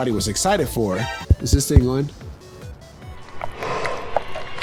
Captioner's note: tap tap tap